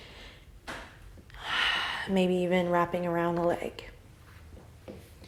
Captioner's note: exhale